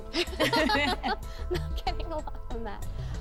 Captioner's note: laughter